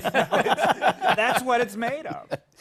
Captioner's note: laughter